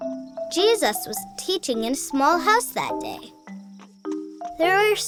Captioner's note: voiceover